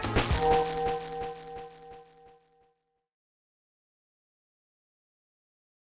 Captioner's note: tone chiming; static crackling